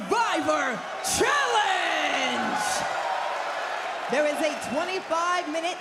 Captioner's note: crowd cheers